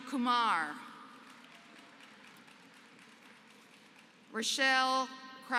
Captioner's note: applause